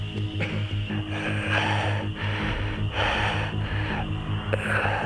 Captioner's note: Shepherd panting